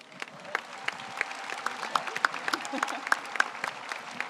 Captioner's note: audience applauds